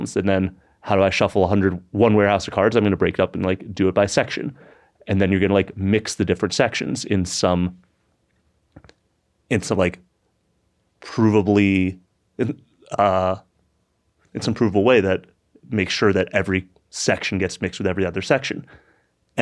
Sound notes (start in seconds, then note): none